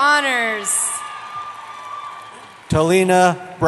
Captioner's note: cheering